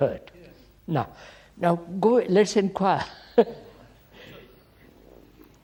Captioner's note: laughs